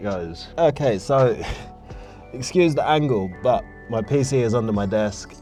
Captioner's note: laughs